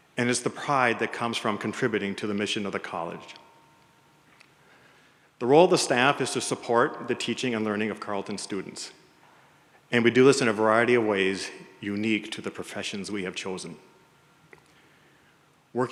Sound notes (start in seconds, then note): none